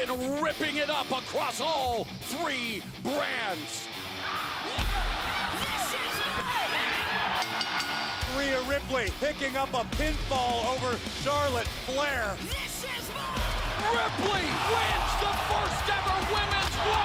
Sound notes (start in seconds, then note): 7.3 bell ringing